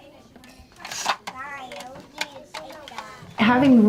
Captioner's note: children playing